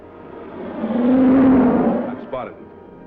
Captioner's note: jet roaring